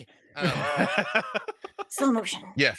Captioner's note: laughs